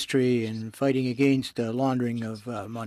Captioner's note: speaking French